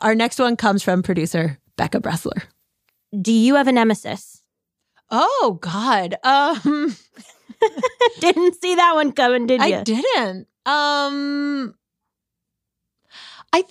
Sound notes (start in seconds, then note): 6.4 laughs